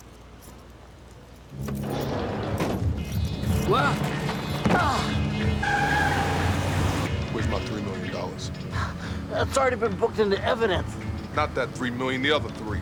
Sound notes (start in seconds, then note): 4.2 grunting; 6.0 tires squealing